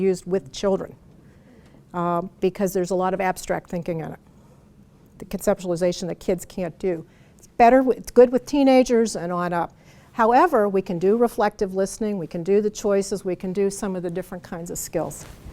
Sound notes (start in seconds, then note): none